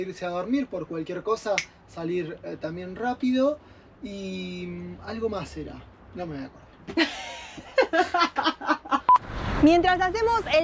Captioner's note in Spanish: risas